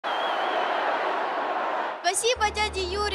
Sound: applause

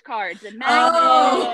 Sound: hosts laughing drowns out

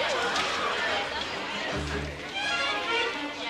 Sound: crowd voices

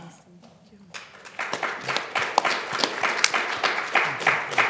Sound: audience applauding

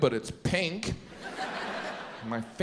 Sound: audience laughs

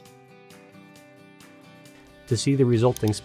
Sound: gentle upbeat music; mouse clicks

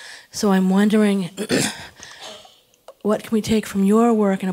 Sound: cough

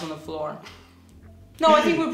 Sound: laughing

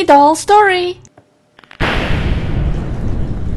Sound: thunder and rain

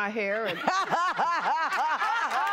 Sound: laughter; applause

